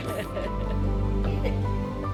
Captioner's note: laughter